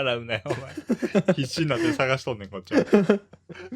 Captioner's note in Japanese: 笑い